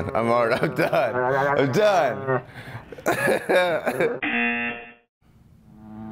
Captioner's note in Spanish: risas; zumbador